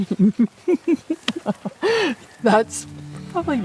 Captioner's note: laughing